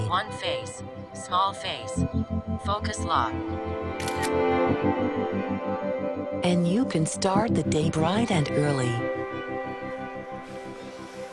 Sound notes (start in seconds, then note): 4.0 camera shutter clicks; 6.3 lighthearted music